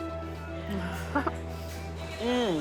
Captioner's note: chuckles